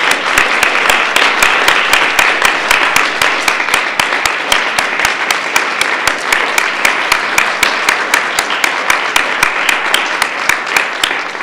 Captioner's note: applause